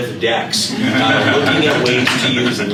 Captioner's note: laughter